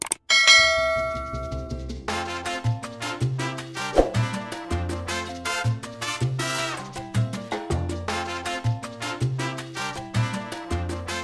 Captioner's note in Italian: campana